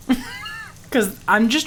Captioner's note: laughing